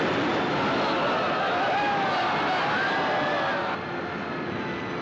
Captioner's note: Todos gritando